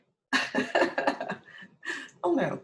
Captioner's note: chuckles